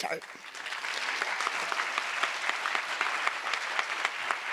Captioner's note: audience applause